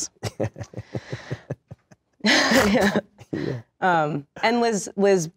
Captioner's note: Shia laughs